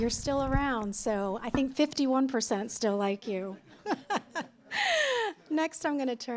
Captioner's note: laughter